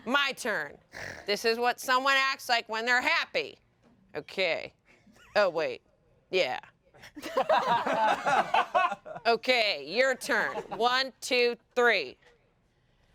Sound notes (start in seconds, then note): 7.2 everyone laughs